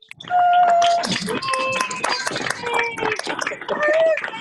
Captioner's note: crowd cheering